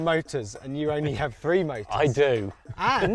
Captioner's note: laughs